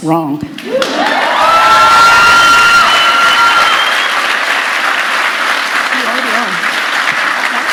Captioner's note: cheering & Applause